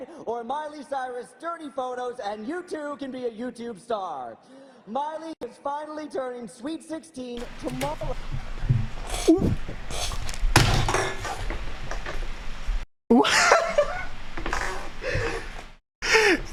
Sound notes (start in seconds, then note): 10.0 slamming headphones down; 13.2 nervous laughter